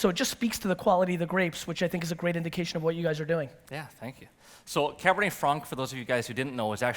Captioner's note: none